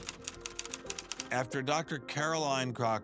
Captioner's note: typewriter clacking